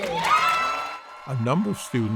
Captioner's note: crowd cheering